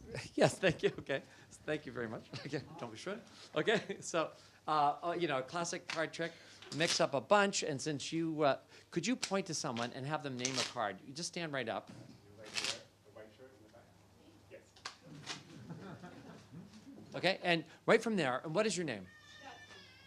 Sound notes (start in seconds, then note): 15.4 laughter